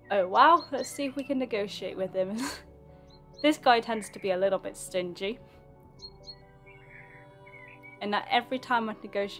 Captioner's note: laughs